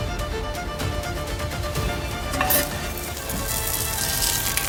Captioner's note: sizzle